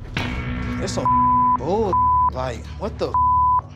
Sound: beeping; beeping

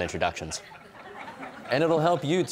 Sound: audience chuckling

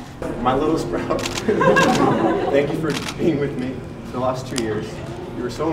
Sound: laughs

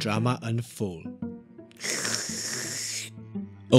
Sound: slurps

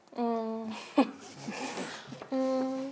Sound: again holding back laughter

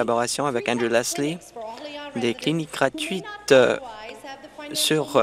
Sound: speaking French

